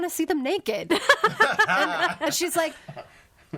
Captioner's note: all laughing